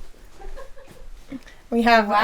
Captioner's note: laughs